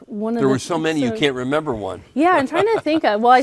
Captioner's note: laughs